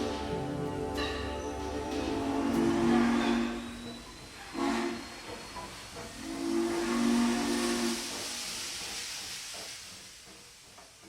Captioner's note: train whistle